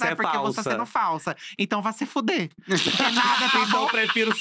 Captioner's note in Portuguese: risos